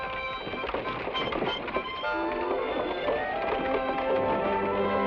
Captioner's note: carriage wheels rumble